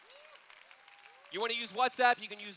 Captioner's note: applause